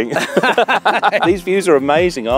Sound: both laughing

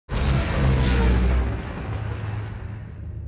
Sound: engine roaring

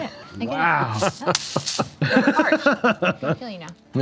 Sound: laughing

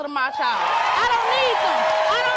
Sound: audience cheers

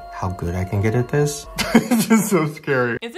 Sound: laughing

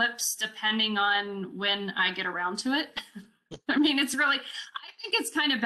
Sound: chuckles

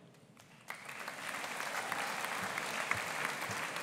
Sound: audience applauding

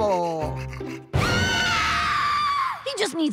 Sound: screaming

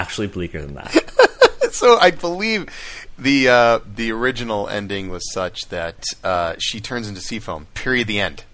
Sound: laughs

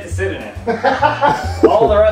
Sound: laughs; chuckles

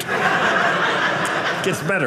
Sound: audience laughing

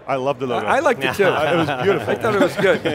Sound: group laughs

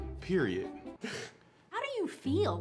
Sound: laughs

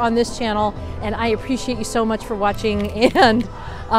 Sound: giggling

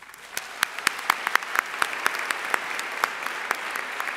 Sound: audience applauding

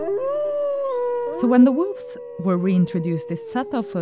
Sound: audio of wolves

